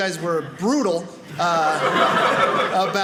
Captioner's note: audience laughing